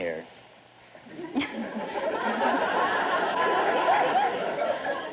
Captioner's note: audience laughter